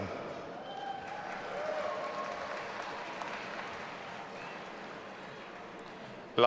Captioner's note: audience applauding and cheering